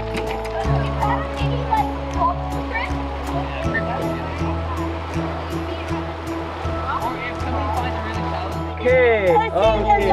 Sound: wheels crunch gravel; flowing water, chatter

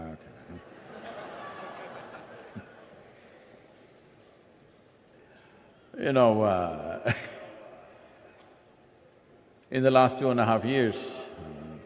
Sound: laughter

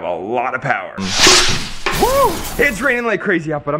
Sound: whooshing and crashing

